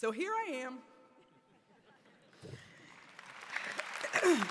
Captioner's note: applause